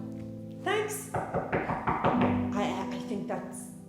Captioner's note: there is a knock at the door